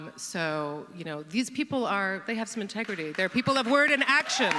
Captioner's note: audience cheers and claps